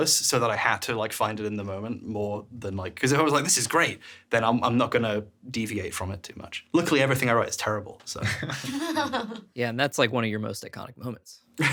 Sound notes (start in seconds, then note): 8.2 chuckling